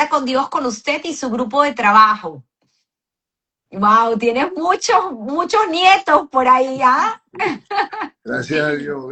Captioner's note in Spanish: risas